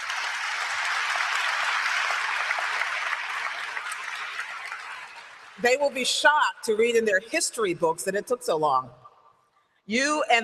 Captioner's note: applause